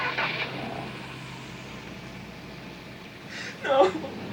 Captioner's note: engine turns